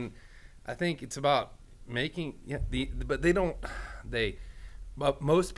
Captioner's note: sighs